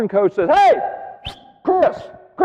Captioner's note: whistling